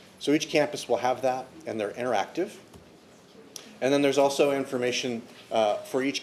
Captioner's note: none